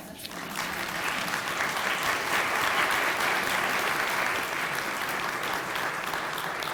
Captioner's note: applause